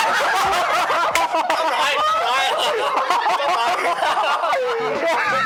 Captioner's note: laughter